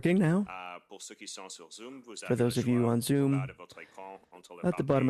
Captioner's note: speaking French